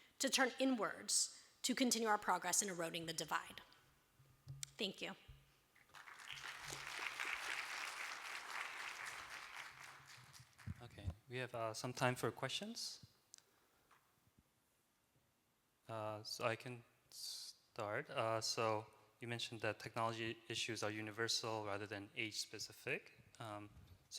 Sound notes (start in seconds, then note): 5.8 applause